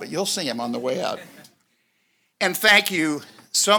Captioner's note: audience laughs